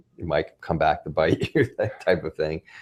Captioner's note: laughs